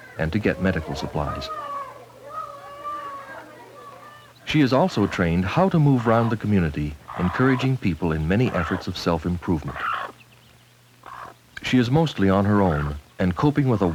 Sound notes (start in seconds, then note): 1.6 baby crying; 3.1 chickens clucking